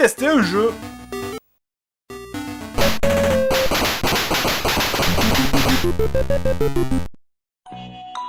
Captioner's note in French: bruitages 8 bit